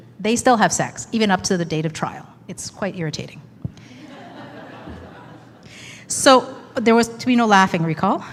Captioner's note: laughing